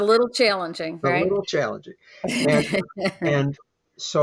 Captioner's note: laughing